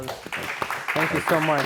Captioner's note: applause